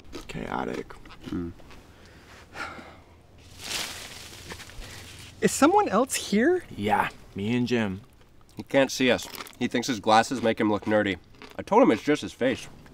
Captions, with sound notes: Chaotic. [sighs] [loud rustling] Is someone else here? Yeah. Me and Jim. He can't see us. He thinks his glasses make him look nerdy. I told him it's just his face.